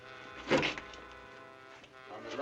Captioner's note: cabinet opens